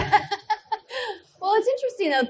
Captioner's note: laughs